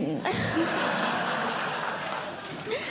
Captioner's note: audience Laughing